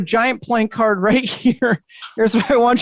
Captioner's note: chuckles